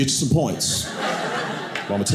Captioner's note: audience laughing